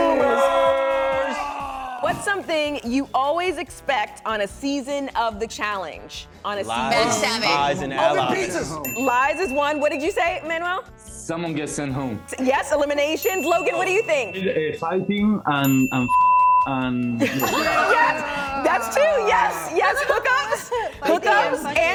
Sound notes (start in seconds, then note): 16.0 beep